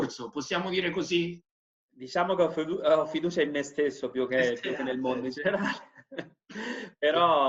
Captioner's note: laughing